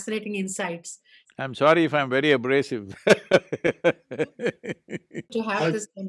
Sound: laughs

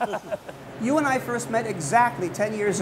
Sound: both laughing

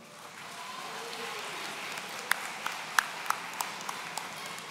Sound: audience cheering

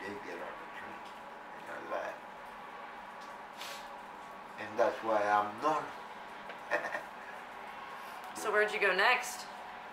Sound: sniffs; laughs

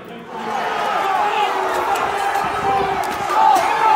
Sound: crowd yelling

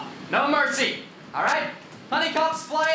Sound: none

